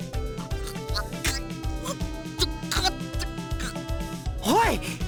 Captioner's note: choking on rage